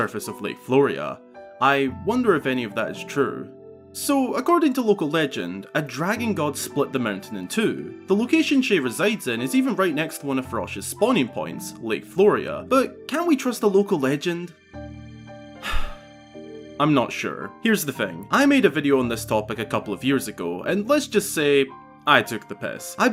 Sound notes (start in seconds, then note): 15.6 sighs